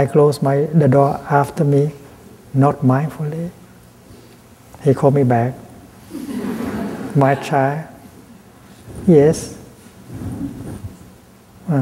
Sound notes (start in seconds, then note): 6.1 laughter